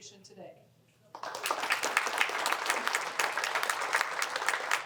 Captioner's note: applause